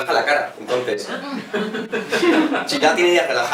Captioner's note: laughs